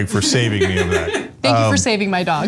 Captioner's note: laugh